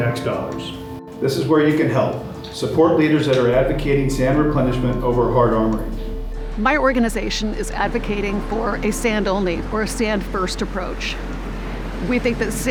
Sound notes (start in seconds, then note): 6.1 machine reversing warning beep